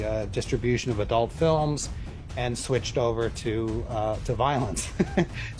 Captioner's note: laughs